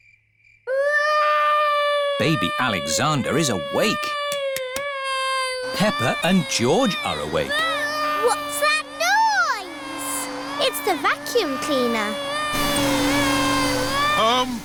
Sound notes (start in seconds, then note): 0.2 baby alexander crying; 7.7 vacuum cleaner whirring; 12.9 crying